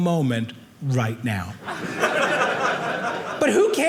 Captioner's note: audience laughing